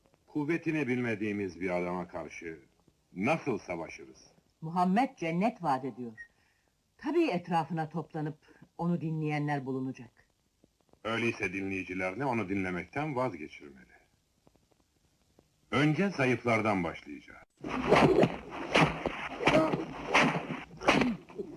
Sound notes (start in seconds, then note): 17.7 whip landing